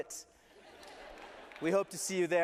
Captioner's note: laughter